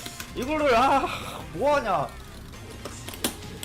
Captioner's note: sigh